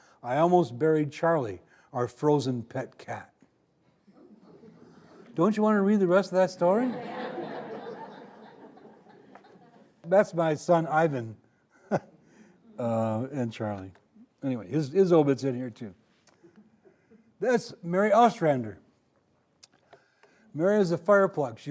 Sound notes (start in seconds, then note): 6.5 audience laughing